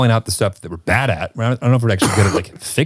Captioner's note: Nick coughs